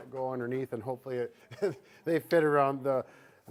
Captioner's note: laughing